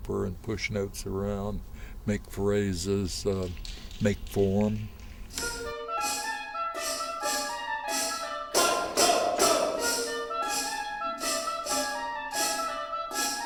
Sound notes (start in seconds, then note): 5.5 mischievous music; 8.5 rhythmic shouting